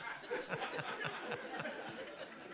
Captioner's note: laughter